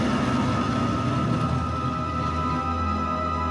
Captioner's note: aircraft noises